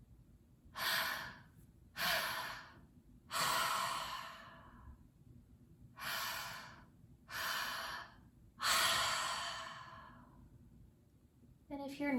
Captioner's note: breathing